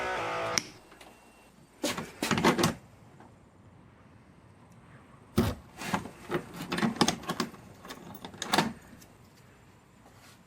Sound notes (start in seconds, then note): 4.5 lock opening